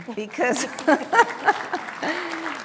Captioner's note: applause